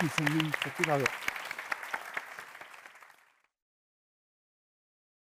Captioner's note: audience clapping